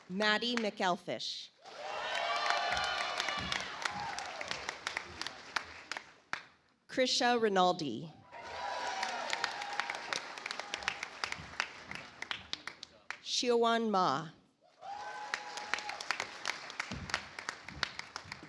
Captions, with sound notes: Maddie McElfish. (audience applauds) Crisha Rinaldi. (audience applauds) Xiaowan Ma. (audience applauds)